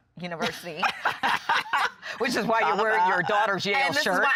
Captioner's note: laughing